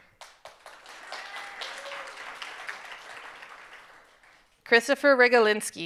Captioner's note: audience cheering and applauding